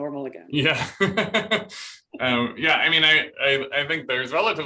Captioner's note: laughter